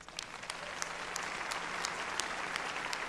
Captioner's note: applause